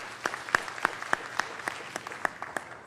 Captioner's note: applause